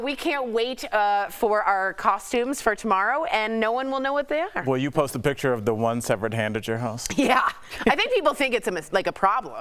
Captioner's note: laughter